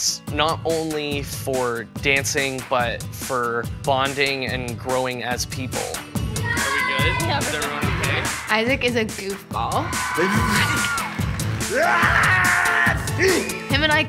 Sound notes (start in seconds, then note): 10.1 over-the-top sneezing sound effect